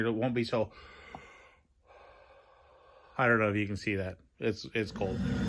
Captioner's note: breaths out.. to see breath